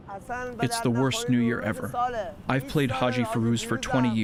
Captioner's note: through translator